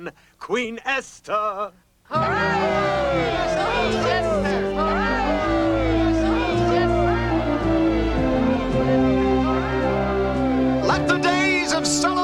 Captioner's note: crowd cheers